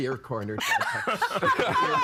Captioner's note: all laughing